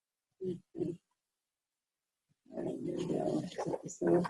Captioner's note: speaking faintly